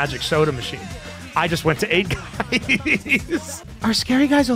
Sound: laughs

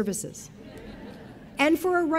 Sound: audience laughing

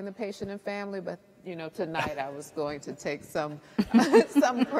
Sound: all laugh

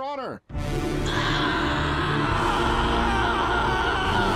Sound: screaming

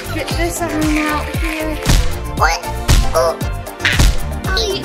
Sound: laughing

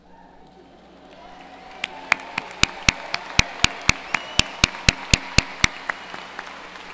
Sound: applause

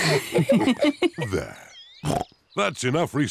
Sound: snorts

